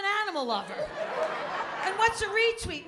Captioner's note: laughter